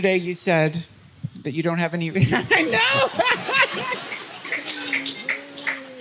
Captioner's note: Laughter at Ram Dass making scary face